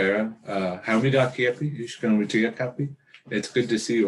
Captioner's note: speaks in Dakota